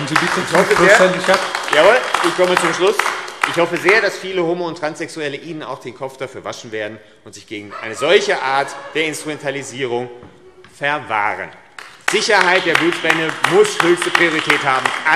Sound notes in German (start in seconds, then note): 10.3 Beifall AfD - Lachen SPD